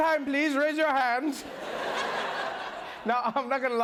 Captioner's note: laughter